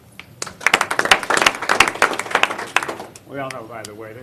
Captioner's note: applause